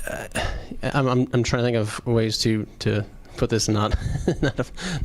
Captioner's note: chuckles